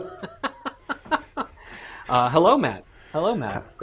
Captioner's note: laughs